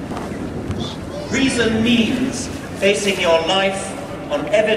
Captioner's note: none